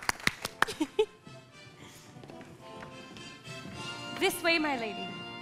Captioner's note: crowd applauds; Elsa giggles